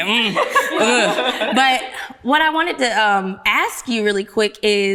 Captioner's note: ladies laughing